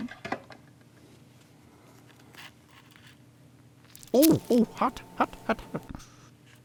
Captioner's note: Squish